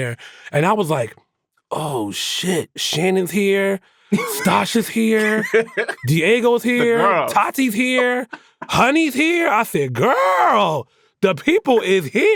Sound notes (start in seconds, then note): 5.1 laughs